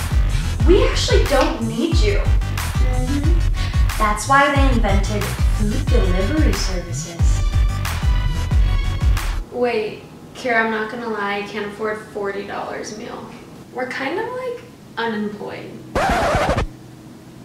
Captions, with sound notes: We actually don't need you. Lauren - Mmhm. That's why they invented food delivery services. Wait.. Keara, I'm not gonna lie I can't afford $40 a meal. We're kinda like... ...unemployed. [Record scratch sound effect]